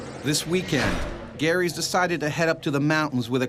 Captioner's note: voiceover